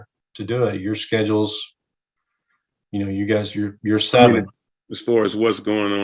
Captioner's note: speaking faintly